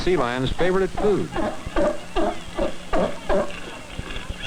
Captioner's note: sea lion barking